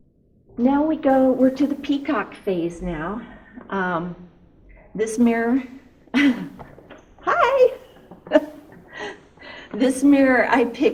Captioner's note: laughs